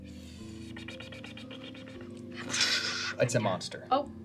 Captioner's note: blows out a gush of air; sucks in air